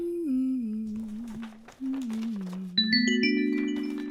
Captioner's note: woman humming